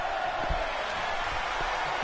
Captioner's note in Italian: Applauso